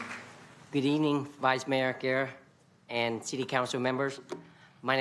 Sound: applause

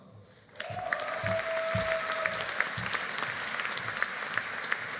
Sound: audience applauding

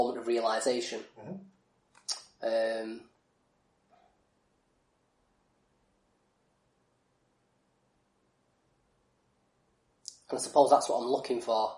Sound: silence

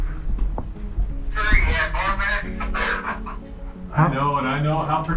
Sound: radio chatter

